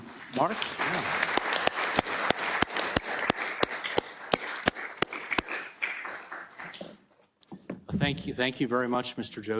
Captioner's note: applause